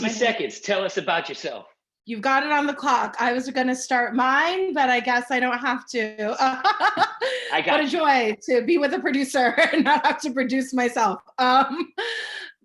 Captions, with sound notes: 60 seconds, tell us about yourself. You've got it on the clock. I was gonna start mine but I guess I don't have to. (laughs) I got you. What a joy to be with a producer (laughing) and not have to produce myself.